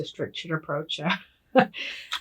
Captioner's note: laughing